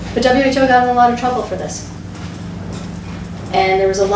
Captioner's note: none